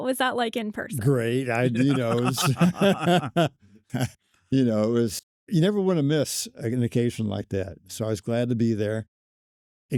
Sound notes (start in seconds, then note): 1.6 group laughs